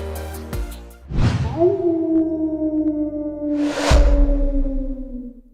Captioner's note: coyote howling